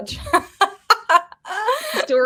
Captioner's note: woman laughing